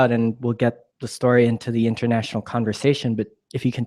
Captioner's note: none